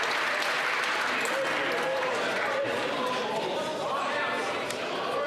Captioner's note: applause